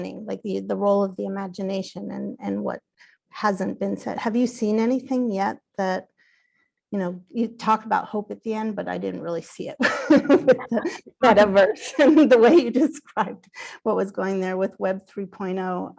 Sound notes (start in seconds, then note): 9.9 laughs